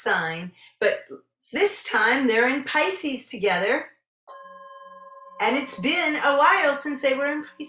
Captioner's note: singing Bowl rings